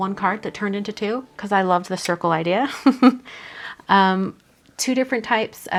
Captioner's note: giggles